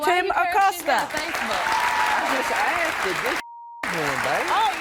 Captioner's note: applause